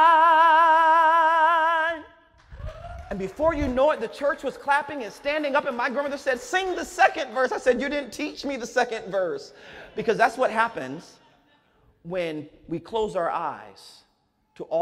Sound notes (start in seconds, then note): 2.4 audience applauds